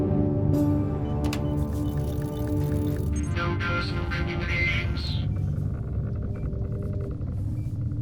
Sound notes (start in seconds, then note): 0.0 dramatic music; 0.0 machines beeping; 1.2 keyboard clacks; 1.2 computer clicks